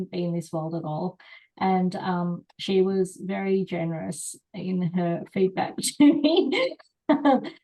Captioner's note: laughs